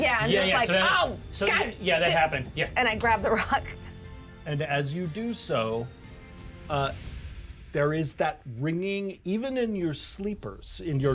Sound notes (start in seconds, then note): 3.7 chuckles